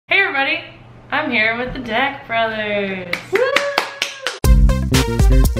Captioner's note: clapping